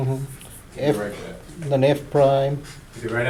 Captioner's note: voiceover